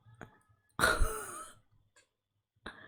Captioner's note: laughs